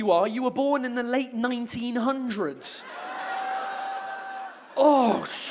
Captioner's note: audience exclaims